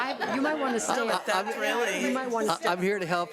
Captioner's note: laughs; overlapping chattering